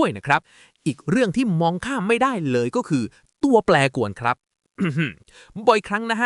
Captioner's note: ahem